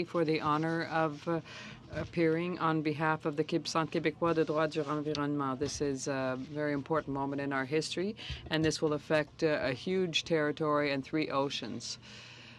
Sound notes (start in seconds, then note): 0.8 speaking French